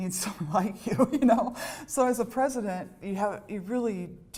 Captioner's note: laughter